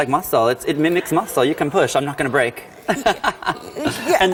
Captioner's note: laughs